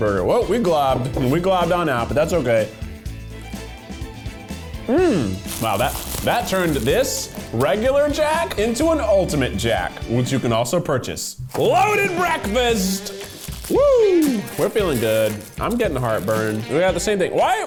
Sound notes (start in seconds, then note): 4.9 humming; 13.8 cheering